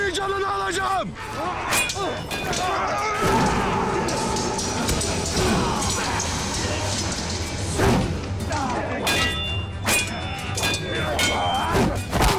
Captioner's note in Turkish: Kılıç ve Çatışma Sesleri